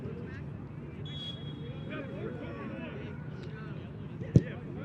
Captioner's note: whistle blows